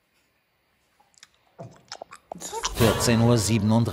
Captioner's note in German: Schmatzgeräusche